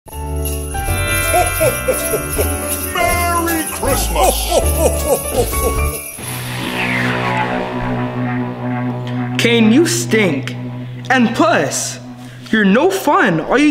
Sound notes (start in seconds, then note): 0.0 christmas music; 0.2 bell jingling; 0.4 audio chimes; 6.3 intense music